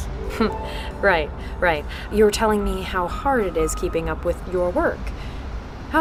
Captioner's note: chuckles